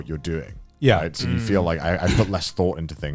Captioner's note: affirmative murmuring